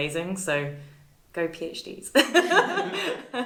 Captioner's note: laughs